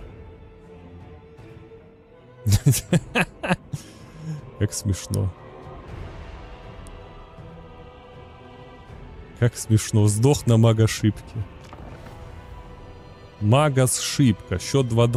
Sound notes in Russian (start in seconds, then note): 2.4 смех